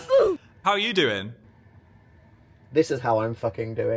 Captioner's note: child grunts